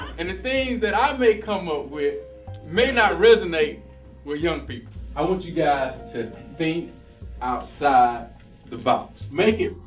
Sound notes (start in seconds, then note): 0.0 laughter